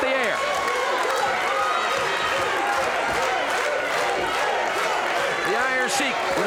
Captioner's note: audience cheers and clapping